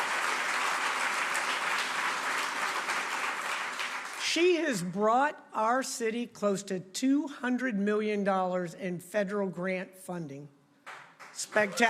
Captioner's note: applause